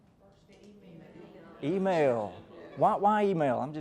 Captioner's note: crowd chattering